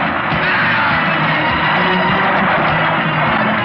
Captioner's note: yelling; tense music